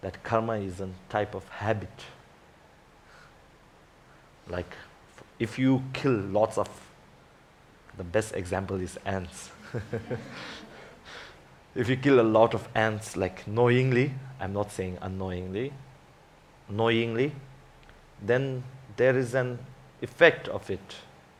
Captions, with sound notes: that karma is a type of habit. If you kill lots of, the best example is ants. (laughs) (audience laughs) If you kill a lot of ants knowingly. I'm not saying annoyingly. Knowingly, then there is an effect of it.